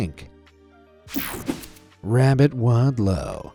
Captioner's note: screen whooshing